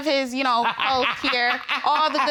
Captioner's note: laughing